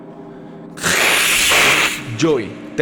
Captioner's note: hiss